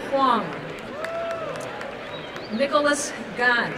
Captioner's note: applause and cheering